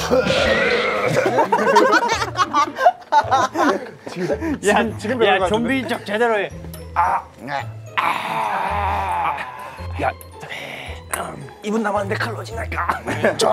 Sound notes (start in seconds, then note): 0.0 everyone's laughter; 0.4 in zombie language